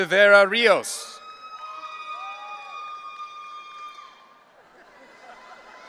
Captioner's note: audience cheering; audience laughing